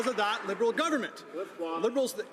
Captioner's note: some Applause